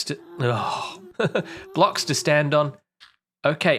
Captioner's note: laughs